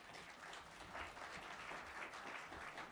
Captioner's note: applause